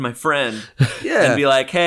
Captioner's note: chuckles